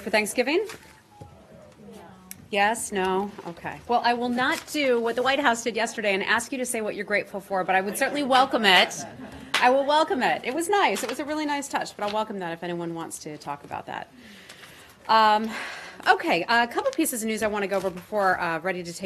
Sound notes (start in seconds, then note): 7.9 laughter